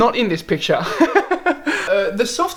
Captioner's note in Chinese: 笑聲